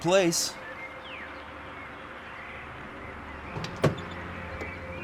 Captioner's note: birds chirping; pensive music